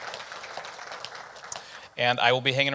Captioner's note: audience applauding